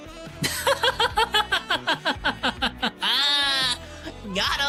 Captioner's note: laughing